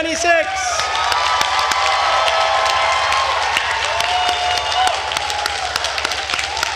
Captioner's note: attendees cheering and applauding